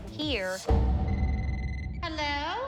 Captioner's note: phone ringing